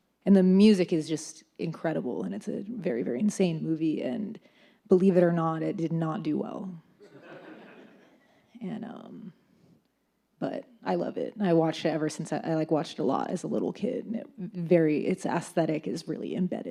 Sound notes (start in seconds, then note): 7.1 audience laughs